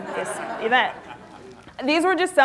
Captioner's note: laughter